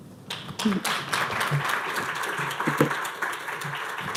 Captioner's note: clapping